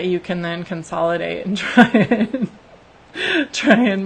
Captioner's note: laughs